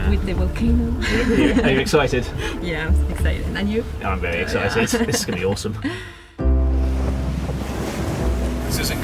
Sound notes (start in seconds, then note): 1.0 laughs; 6.1 light music